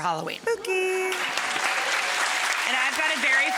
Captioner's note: audience applauding